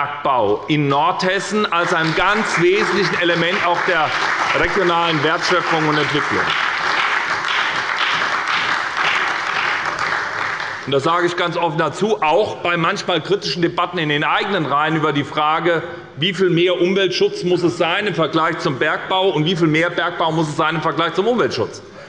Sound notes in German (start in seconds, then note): 7.8 Beifall bei der SPD und der CDU